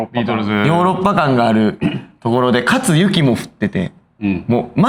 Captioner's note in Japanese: 咳払い